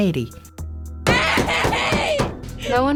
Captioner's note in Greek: κλαίγοντας